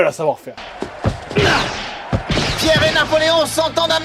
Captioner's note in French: bruits de tirs